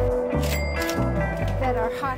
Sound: cash register rings

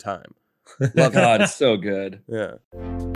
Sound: laughs

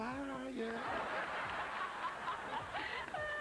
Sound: laughing

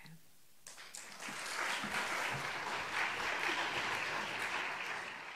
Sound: applause

